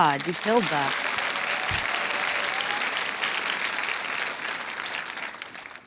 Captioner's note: audience applauding